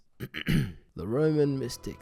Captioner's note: clears thoat